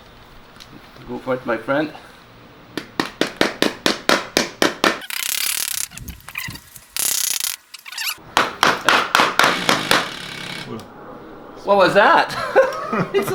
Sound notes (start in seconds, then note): 6.0 loud fart noise